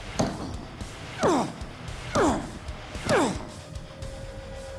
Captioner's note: continues grunting